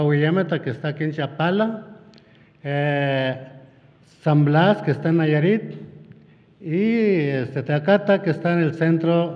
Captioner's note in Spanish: habla en wixárika